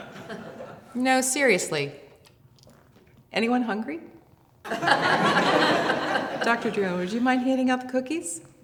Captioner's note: laughter